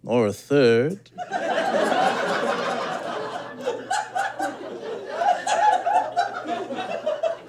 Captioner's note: sustained audience giggling